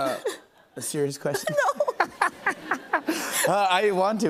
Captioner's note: laughter